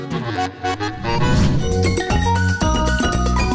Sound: whooshes; lively tropical music

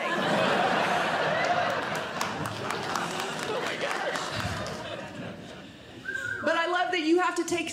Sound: audience Laughing

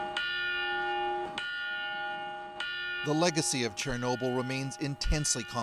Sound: bell ringing

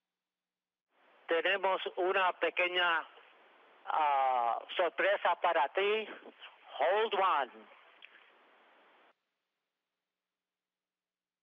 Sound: foreign language

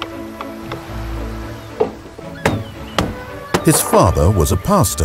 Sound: waves crashing; seagulls squawking

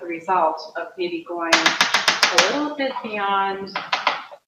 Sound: spatula tapping

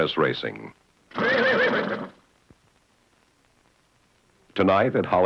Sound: horse neighing

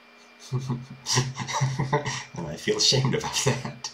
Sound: chuckle

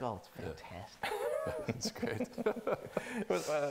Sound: laughing

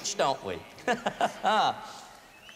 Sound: laughter

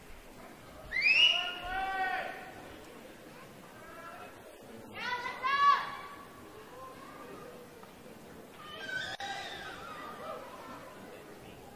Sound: cheering

